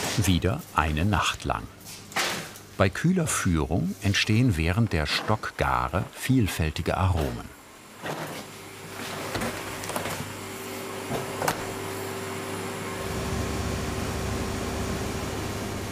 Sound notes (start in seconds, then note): 9.3 refrigerator whirring; 13.0 loud buzzing